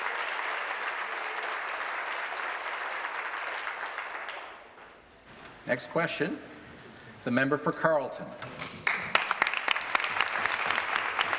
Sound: some Applause

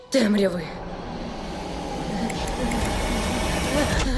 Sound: panicked panting; flashlight clicking

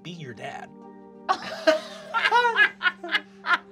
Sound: laughter; ethereal music

